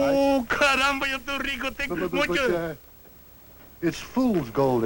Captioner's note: non-english speech